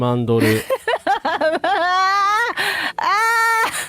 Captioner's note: laughter